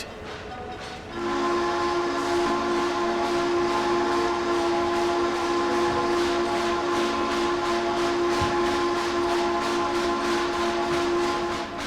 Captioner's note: Frisco 1522 whistle